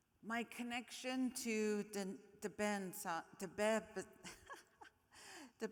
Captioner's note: laughs